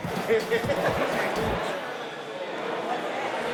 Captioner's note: inmates laughing